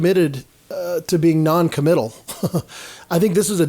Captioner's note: chuckles